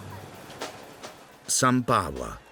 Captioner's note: waves lapping